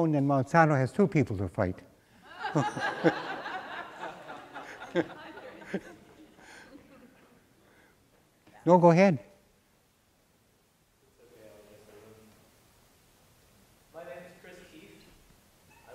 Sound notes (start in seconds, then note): 2.2 laughter